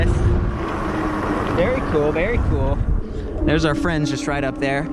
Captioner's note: electric motor whirs